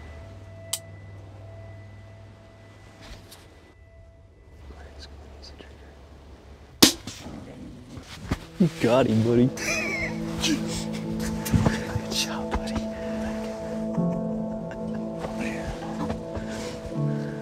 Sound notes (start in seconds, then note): 0.7 click; 4.2 whispering; 6.8 pow; 11.5 whispering